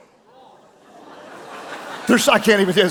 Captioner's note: audience laughing